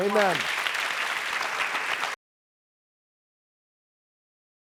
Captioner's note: audience clapping